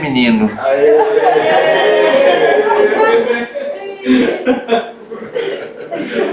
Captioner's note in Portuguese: gritos de emoção